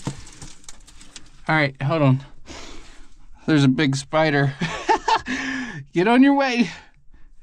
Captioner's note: laughs